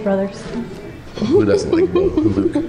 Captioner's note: laughing